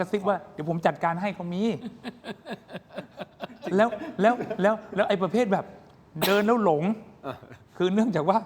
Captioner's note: laughter